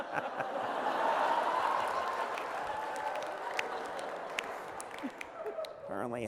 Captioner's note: laughter